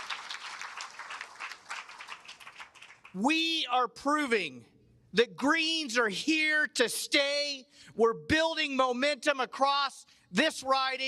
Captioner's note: cheers and applause